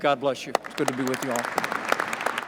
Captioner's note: applause